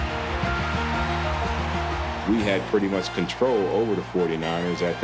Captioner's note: crowd cheering